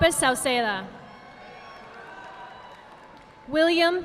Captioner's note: audience applauding